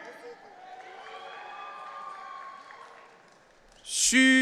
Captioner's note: audience cheering